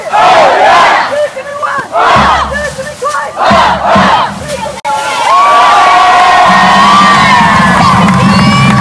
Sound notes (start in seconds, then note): 0.4 crowd; 4.5 applause